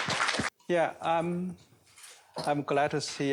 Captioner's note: applause